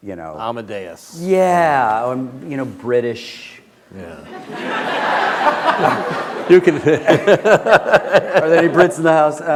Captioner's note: laughter